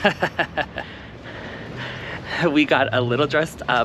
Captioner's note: giggles again